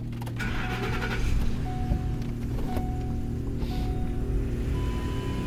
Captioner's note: vehicle engine whirring